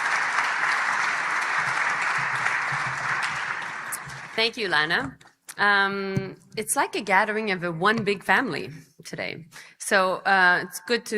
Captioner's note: applause